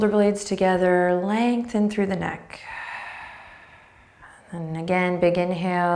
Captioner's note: breathing deeply